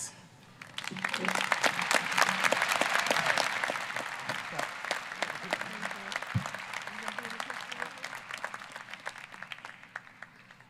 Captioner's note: applause